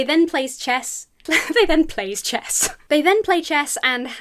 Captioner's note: chuckles